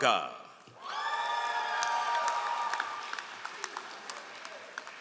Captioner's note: all applauding